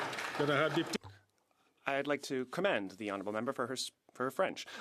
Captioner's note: some Applause